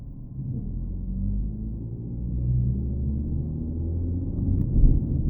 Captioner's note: car engine whirring